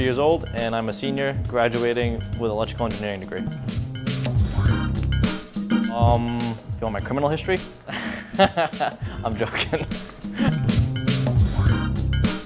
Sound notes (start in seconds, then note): 7.9 laughs